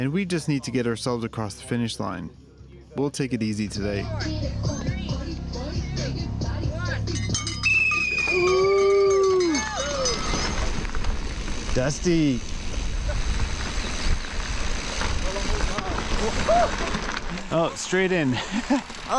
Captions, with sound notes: and we just need to get ourselves across the finish line. We'll take it easy today. Three! Two! One! (bell ringing) - Dusty. Oh, straight in.